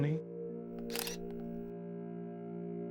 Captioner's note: camera clicks